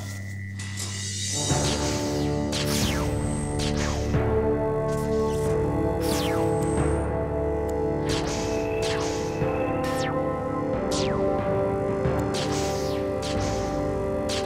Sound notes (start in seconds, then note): 0.8 security lasers fizzle out